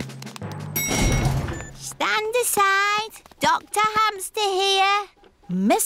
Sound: elevator dings

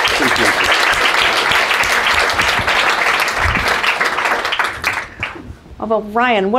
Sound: applause

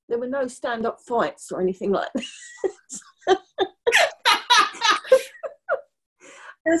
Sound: laughter

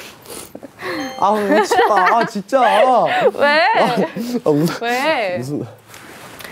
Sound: they can't stop laughing

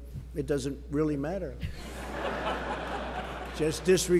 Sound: laughter

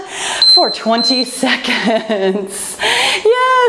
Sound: timer beeping

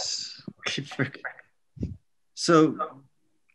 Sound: man laughs

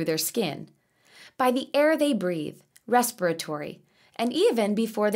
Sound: respiratory

